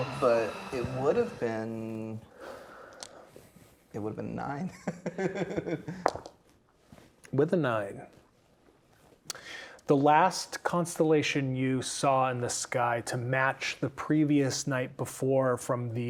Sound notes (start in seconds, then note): 4.8 chuckling; 6.3 dice rolling